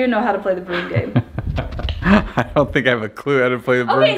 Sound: laughs

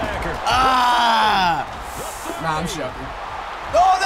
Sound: groans

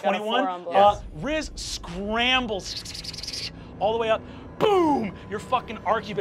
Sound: mimics scurrying

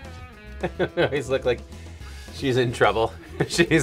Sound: laughs

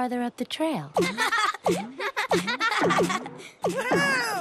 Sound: laugh

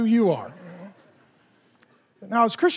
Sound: congregation laughing

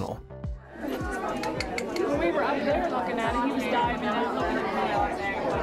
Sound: indistinct conversation

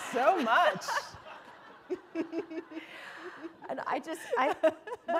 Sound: laughter

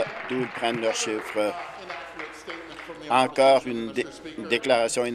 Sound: applause

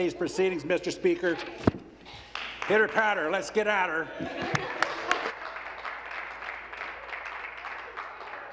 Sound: some Applause; laughter

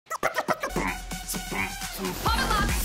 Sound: beatboxing

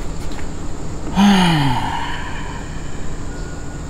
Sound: sighs

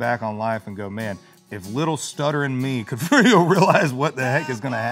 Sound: laughs

